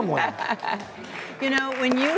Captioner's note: laughing; audience applause